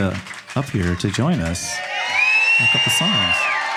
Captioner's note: audience applauding and cheering